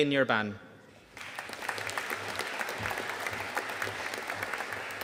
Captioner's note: audience applauding